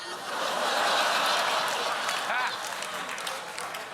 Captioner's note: laughter; applause